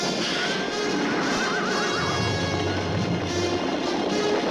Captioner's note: horse whinnies